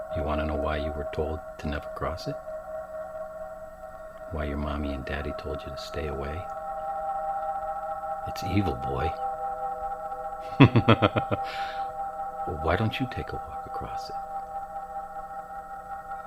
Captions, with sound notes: You wanna know why you were told to never cross it? Why your mommy and daddy told you to stay away. It's evil boy. (suspenseful music) (laughing) Well, why don't you take a walk across it.